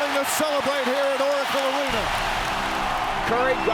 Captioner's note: crowd cheering